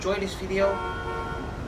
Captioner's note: car horn